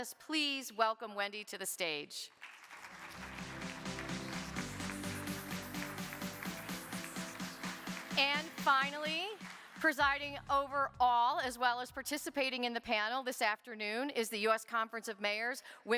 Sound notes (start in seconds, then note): 2.4 audience applauding; 4.5 upbeat music